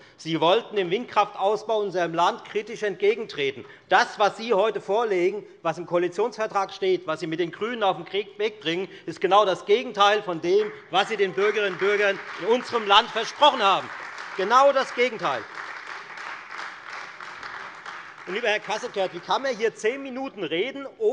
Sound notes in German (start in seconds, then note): 15.6 Beifall Freie Demokraten und AfD